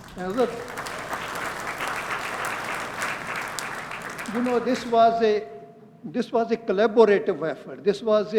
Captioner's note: applause